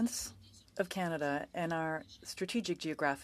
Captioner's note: speaking French